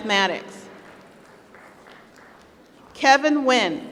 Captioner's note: applause